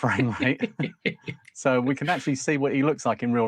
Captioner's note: laughing